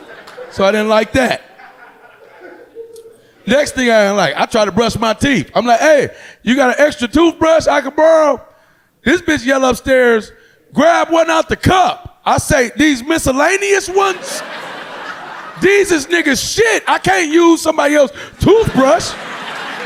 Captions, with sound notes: So I didn't like that. Next thing I ain't like I tried to brush my teeth. I'm like hey you got a extra toothbrush I could borrow? This bitch yell upstairs, grab one out the cup. I say these miscellaneous ones, (audience laughing) these is niggas shit I can't use somebody else toothbrush.